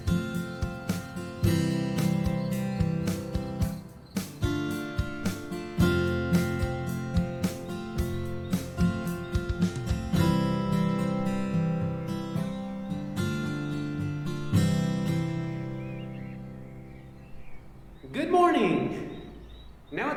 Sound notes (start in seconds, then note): 2.3 birds chirping